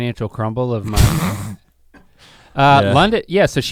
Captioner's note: Rhett sputters